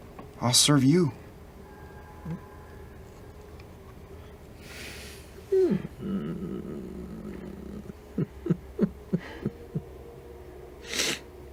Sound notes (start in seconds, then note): 8.1 unsettling laughter